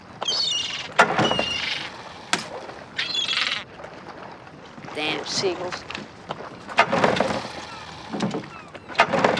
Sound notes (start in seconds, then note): 1.2 squawking; 6.8 motor stalling